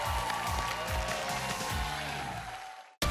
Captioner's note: applause; cheers and applause